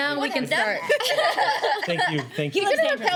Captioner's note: laughing